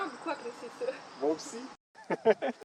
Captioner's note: laughs